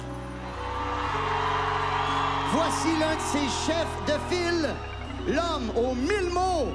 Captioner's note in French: cris de la foule